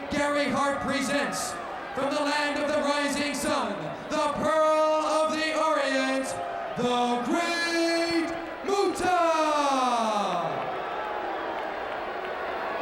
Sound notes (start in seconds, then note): 10.0 crowd boos